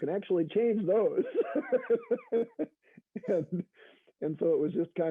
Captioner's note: laughs